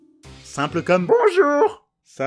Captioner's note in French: voix ridicule